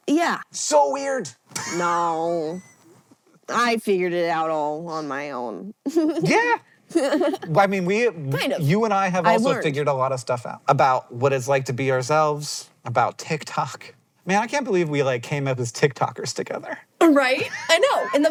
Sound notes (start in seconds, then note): 6.9 giggles